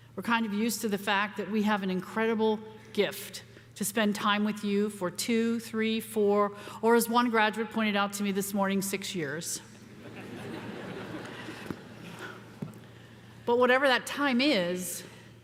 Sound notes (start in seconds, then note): 9.9 audience laughing